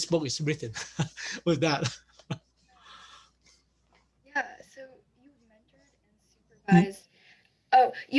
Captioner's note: laughs